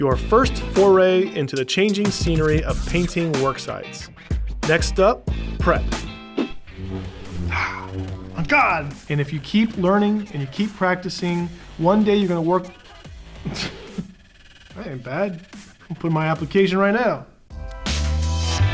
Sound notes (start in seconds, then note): 12.6 laughing